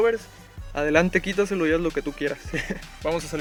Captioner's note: laugh